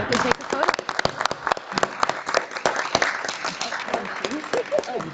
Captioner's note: audience applauding